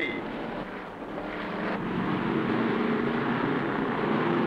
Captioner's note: engines rumbling